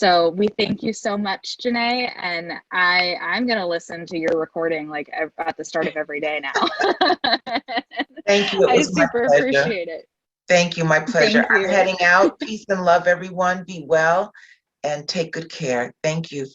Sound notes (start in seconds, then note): 6.6 chuckle